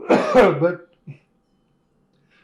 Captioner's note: laughs